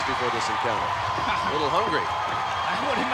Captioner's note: laugh